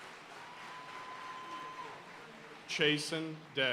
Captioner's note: audience cheering and applauding